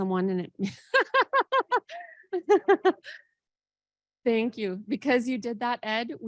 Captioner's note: laughs